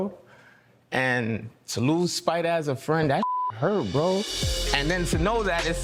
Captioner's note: beep